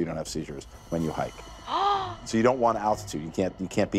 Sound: gasps

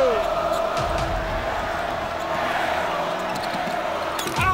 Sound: audience cheers

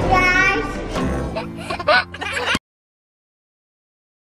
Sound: giggles

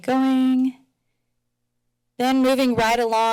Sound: silence

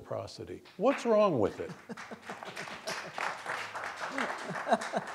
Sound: audience applauding

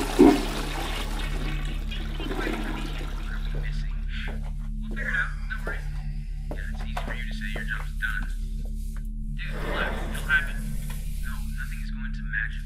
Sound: toilet flush; background players voices on monitor

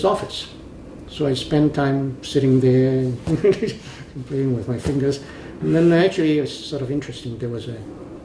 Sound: laughs

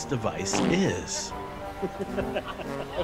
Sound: laughing

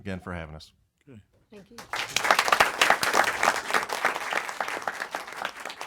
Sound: applause

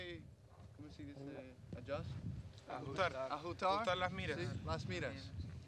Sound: speaking in a foreign language

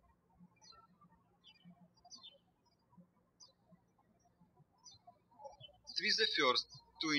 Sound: birds chirping

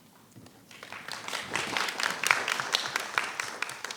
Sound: clapping

